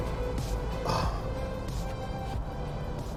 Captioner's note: sighs